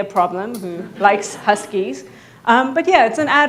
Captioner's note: audience laughing